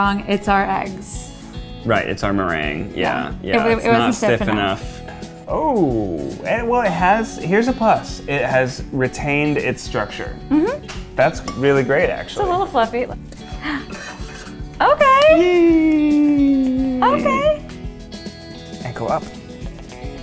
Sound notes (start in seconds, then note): 15.8 cheers; 20.0 whimsical music